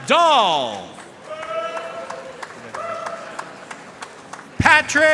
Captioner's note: audience cheering and applauding